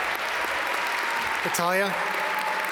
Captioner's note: audience applaud